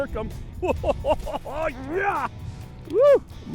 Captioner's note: laughter